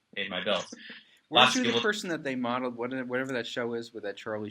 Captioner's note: laughs